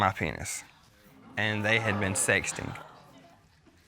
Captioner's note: audience groans